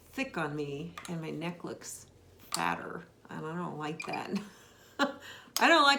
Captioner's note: laughs